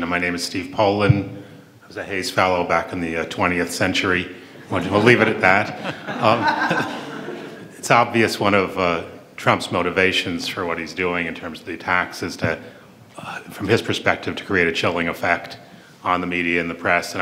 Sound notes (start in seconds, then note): 6.3 audience laughs